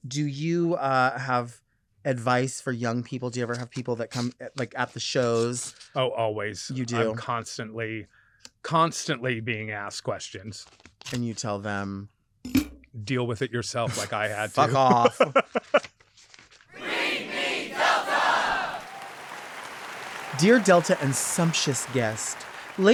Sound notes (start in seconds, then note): 13.9 laughing; 18.5 audience applauding